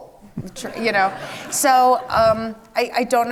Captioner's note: audience laughs